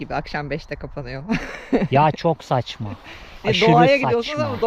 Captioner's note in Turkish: kahkaha